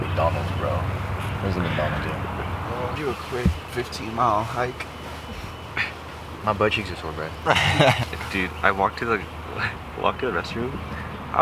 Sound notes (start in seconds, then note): 7.4 laughter